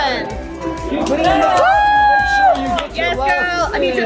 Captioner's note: cheering